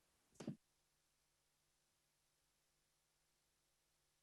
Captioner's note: keyboard clicking